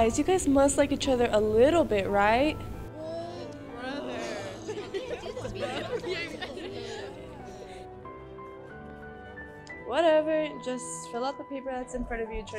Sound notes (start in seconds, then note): 2.9 angrier groans